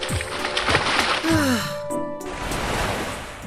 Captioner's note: weary sigh